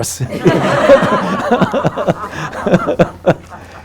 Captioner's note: group laughing